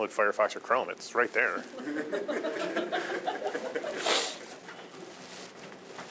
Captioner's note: audience laughing